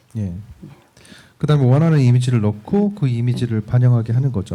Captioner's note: speaking korean